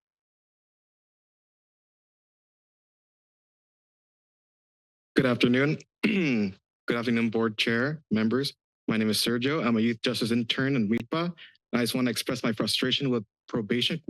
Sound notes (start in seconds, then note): 0.3 silence; 6.0 clears throat